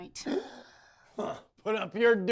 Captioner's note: gasps